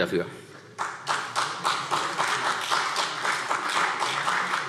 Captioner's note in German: Beifall